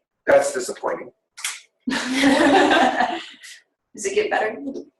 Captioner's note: laughing